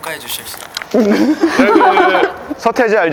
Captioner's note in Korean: 웃음